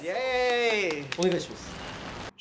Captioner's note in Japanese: イケボ